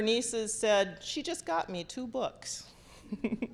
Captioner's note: laughter